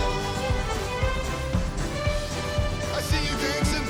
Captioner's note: clapping